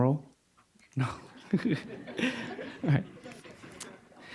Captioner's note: laughing; audience chuckling